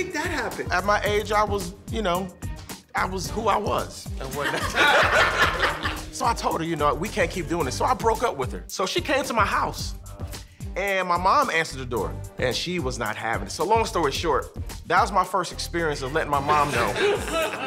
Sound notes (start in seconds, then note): 4.4 laughter